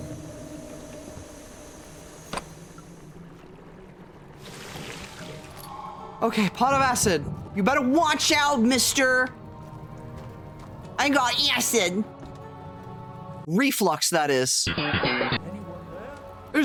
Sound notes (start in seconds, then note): 1.0 footsteps; 9.4 soft music; 12.1 soft music